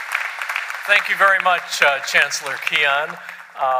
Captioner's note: applause